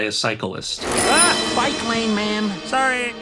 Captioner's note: bell rings